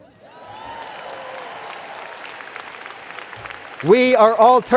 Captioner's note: cheers and Applause